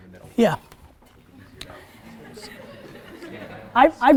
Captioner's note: students laugh